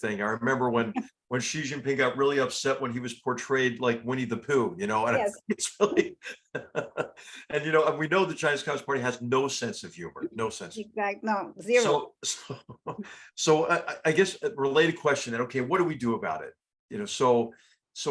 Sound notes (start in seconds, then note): 6.6 laugh